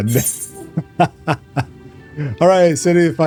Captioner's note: laughs